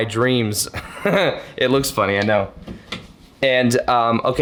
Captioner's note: laughs